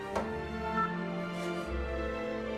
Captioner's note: pressing phone button